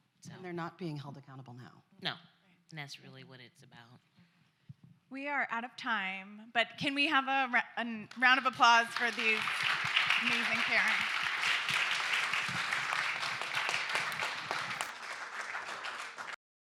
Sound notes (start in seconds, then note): 10.9 applause